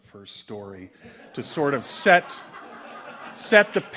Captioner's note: audience laughs